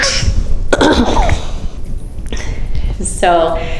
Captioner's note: clears the throat; chuckles